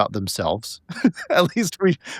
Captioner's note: laughing